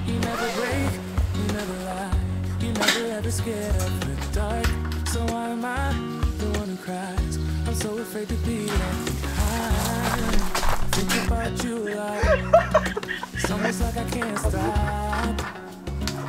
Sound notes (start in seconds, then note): 8.6 sighs